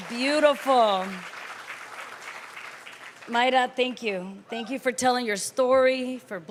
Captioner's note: cheers & applause